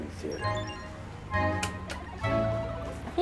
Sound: video game machines buzzing

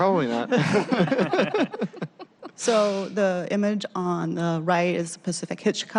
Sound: laughter

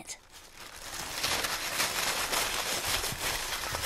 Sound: paper rustling loudly

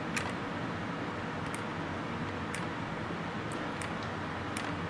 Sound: clipping sounds

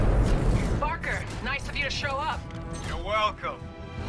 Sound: radio

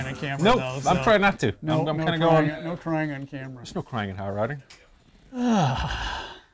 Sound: sigh

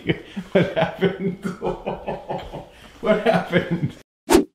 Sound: laughing

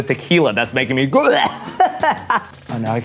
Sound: gags

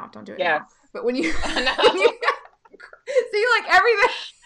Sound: laughing

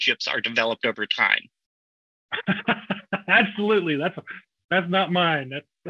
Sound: laughs

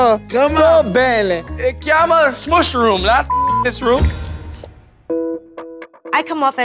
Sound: speaking italian

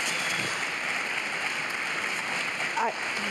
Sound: applause

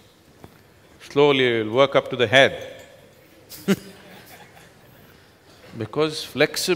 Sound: laughs

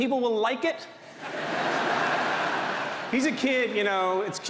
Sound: audience laughs

